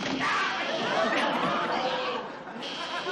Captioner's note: audience laughs